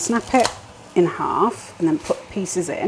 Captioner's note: snap